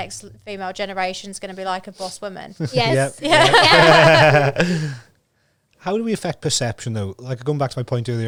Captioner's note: laughs